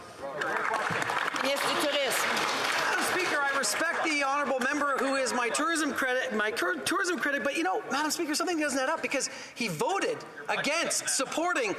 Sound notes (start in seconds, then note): 3.1 applause; 6.9 speaking in French